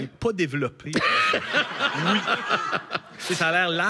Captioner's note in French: rires